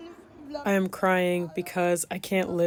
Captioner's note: through translator